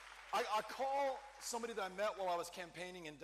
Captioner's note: cheering